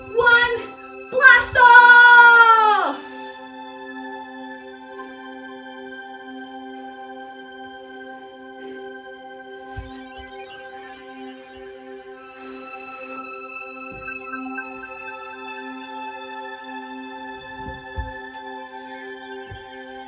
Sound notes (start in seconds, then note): 3.7 electronic space sounds